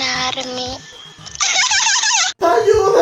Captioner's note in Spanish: Risas de psicopata